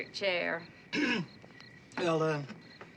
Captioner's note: clearing throat